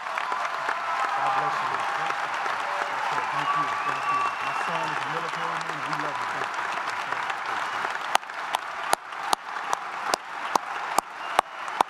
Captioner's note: applause